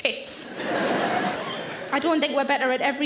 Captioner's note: audience laughing